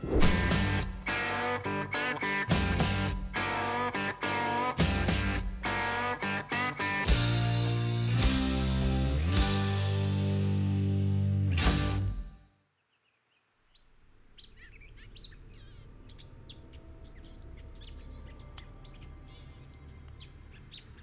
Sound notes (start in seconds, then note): 0.1 upbeat music; 14.3 birds chirping